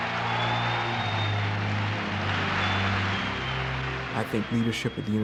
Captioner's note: audience applauding